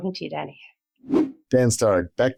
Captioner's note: whooshing sound effect